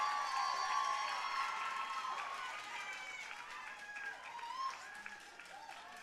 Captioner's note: audience cheering and applauding